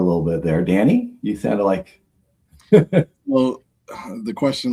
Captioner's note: laughs